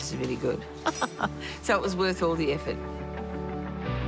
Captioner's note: laughs